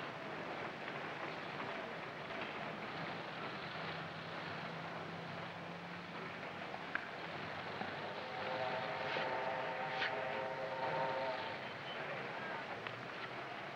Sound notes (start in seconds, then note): 8.2 train horn blaring